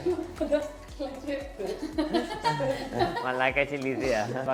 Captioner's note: laughter